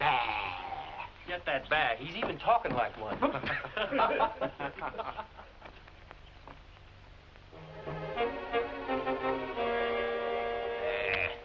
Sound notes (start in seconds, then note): 3.0 laughing; 7.5 pensive music